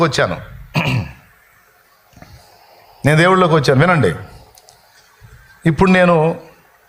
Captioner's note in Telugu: గొంతు సవరించుకోవడం